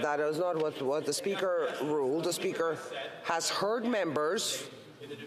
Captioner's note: off mic